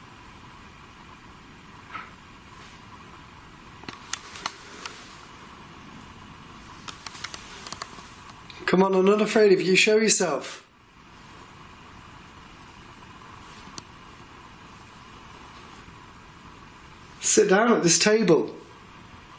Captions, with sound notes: (tapping) Come on, I'm not afraid of you, show yourself. Sit down at this table.